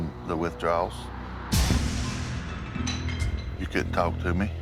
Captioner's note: shattering